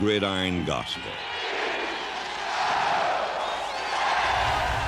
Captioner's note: chanting